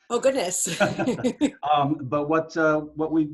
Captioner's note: laughing